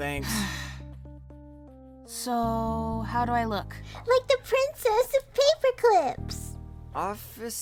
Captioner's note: sigh